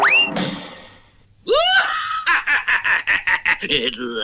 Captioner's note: Simon Bar Sinister Laughs